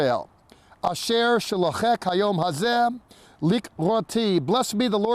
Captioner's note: speaking in Hebrew